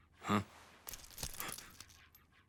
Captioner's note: gasps